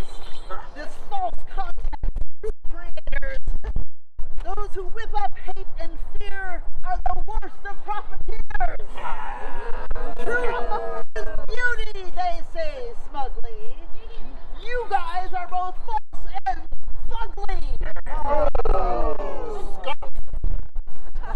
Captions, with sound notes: This false content’s true creators. Those who whip up hate and fear Are the worst of profiteers. [audience agrees] Truth is beauty, they say smugly. You guys are both false and fugly.